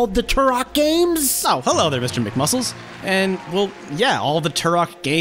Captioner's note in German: Beifall